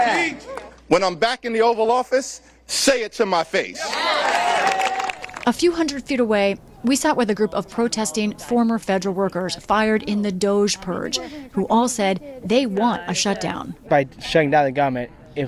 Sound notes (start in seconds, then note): 3.8 cheering; 3.9 applause